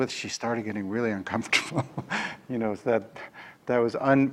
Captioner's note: laughs